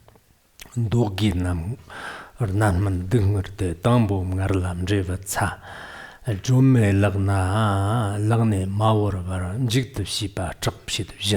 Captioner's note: giving oral transmission in Tibetan